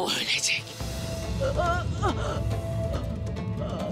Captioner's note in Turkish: Nefes sesi; Müzik - Gerilim